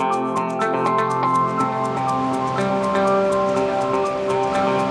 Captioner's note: optimistic music; water rushing